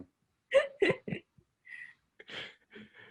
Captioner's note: laughs